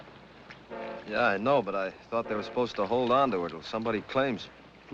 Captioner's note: none